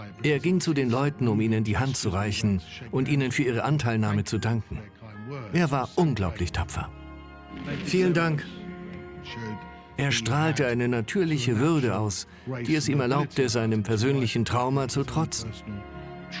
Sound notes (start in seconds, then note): 9.4 voiceover